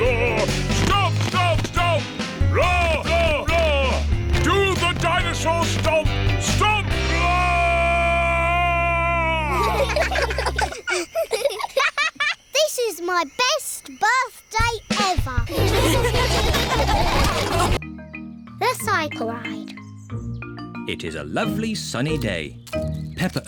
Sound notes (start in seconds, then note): 9.4 children giggle; 15.4 all laughing